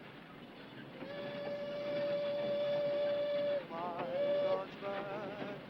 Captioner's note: horn blowing; singing in foreign language